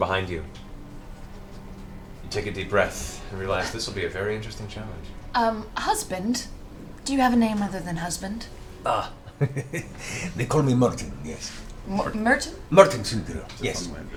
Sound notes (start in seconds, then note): 8.8 laughs